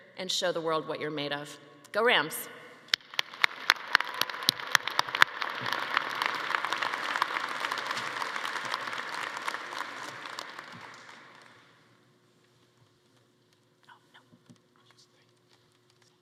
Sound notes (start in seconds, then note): 2.9 everyone applauding; 3.3 attendees cheering